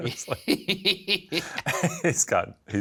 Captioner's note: Shane and Ryan laughing